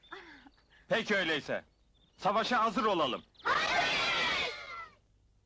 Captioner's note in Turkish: çocuk kalabalığı